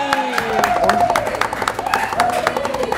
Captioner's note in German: Jubel